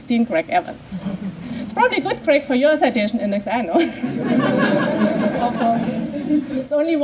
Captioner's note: laughter